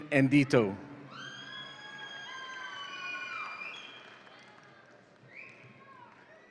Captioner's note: audience applauds and cheers